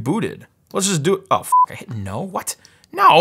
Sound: beep

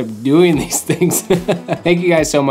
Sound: laughs

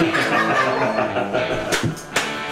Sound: they laugh

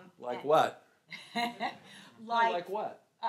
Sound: laughs

